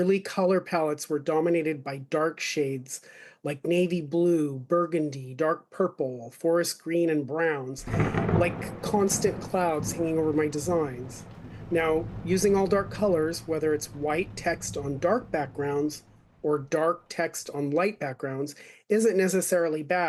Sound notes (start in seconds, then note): 7.8 thunder